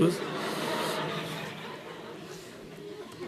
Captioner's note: laughter